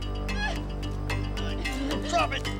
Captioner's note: girl squealing